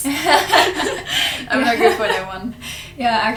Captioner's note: laughs